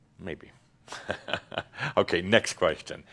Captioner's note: chuckles